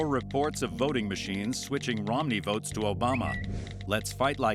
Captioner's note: Twitter chime